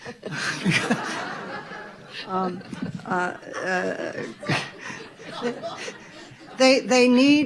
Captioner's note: audience laughing; laughing